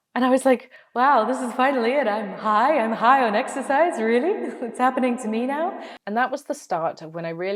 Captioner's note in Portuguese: voz de eco